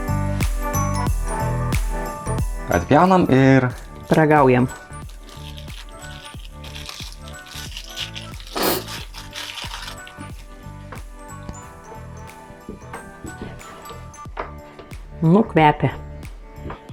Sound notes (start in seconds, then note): 8.6 sneezes in Lithuanian